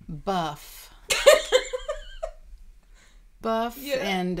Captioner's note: laughing